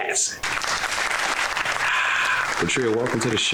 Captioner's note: clapping